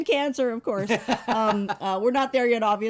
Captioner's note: laughs